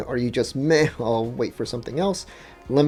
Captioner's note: none